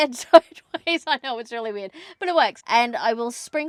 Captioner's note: laughing